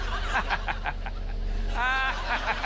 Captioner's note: evil laugh